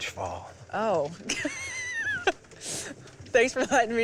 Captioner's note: laughs